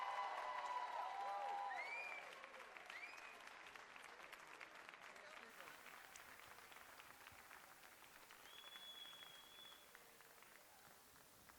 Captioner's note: cheers and applause